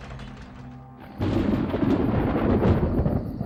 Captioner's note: thunder